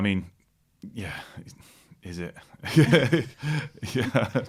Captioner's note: laughter